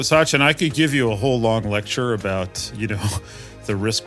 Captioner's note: laugh